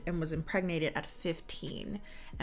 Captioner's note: none